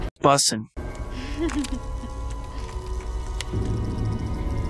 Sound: MJ fake laughs at Peter's dumb slang

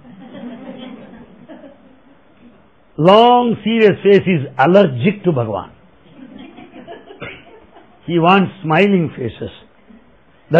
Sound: laughter

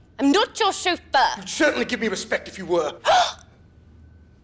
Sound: gasps

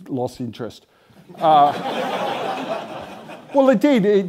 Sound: laughter

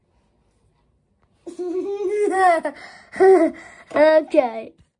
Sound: laughs

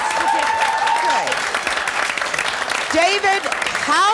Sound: audience clapping

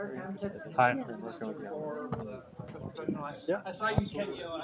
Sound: murmuring

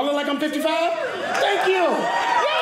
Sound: audience cheering

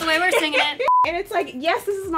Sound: beeping

